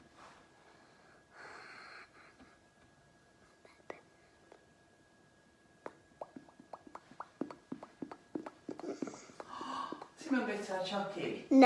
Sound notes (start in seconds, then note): 6.2 makes noises by moving lips up and down